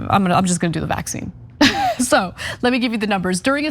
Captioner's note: laugh